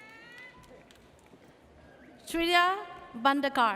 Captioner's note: audience cheers